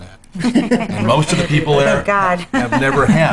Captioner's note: laughing